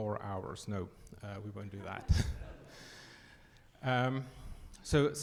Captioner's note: audience laughs